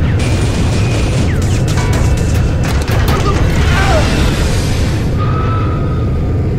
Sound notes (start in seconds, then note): 0.0 shooting, engine noice; 3.7 engine noice